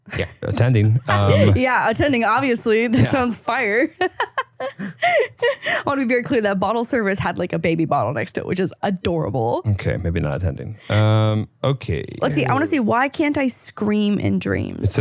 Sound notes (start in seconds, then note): 1.0 laughs; 3.9 laughing